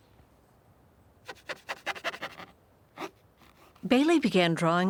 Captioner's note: brush scraping